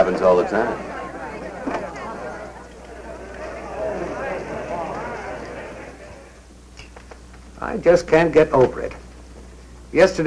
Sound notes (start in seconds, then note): 4.5 people chattering